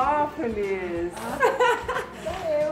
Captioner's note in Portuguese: risos